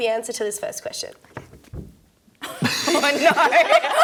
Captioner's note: laughter